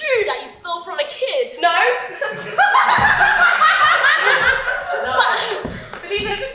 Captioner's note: audience laughs loudly